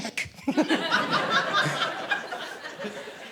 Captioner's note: audience laughing